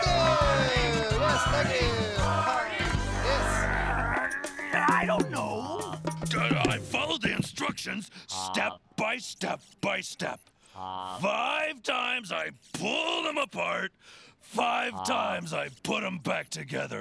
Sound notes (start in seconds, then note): 0.7 chanting; 3.1 Theo growling